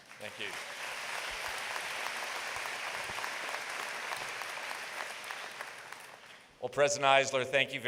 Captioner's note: applause